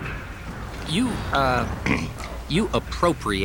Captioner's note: clears throat